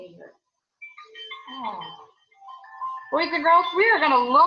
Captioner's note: alarms rings